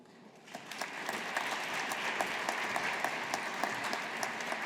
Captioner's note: audience applauding